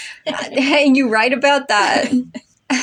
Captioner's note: laugh